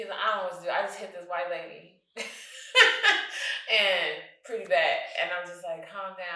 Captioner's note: guffaws